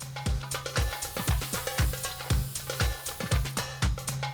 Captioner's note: food sizzles